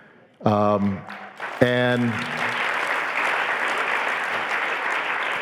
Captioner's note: audience applauding